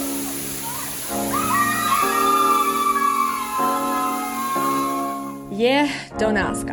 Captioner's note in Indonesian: Screaming